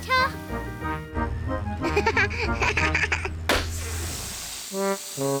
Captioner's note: laughs; tire pops, hisses